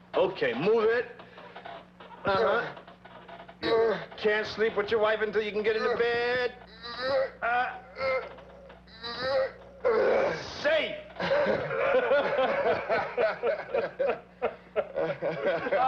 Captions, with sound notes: - Okay, move it. (Roy grunting forcefully) Can't sleep with your wife until you can get into bed. Safe! (Roy and Sam laughing)